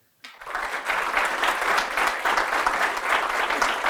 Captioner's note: applause